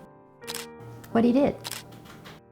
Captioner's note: camera shutter clicking